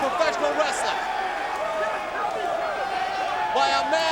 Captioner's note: crowd vocalizing